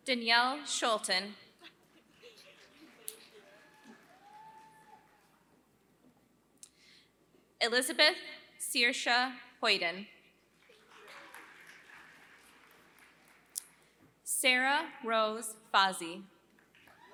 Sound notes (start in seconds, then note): 0.0 applause; 16.6 applause